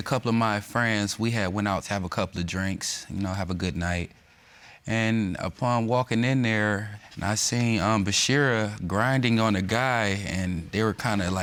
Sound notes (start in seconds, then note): none